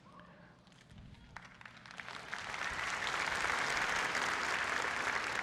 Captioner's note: applause